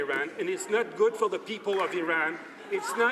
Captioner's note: some Applause